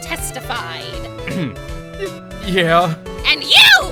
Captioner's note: ahem